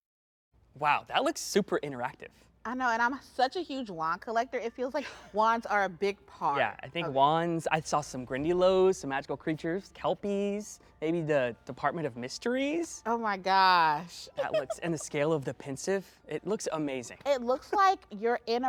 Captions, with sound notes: Wow. That looks super-interactive. I know. And I'm such a huge wand collector, it feels like wands are a big part. Yeah. I think wands-- I saw some Grindylows, some magical creatures, Kelpies. And the Department of Mysteries? Oh, my gosh. -[laughs] -That looks--and the scale of the Pensieve, it looks amazing. It looks like you're in a room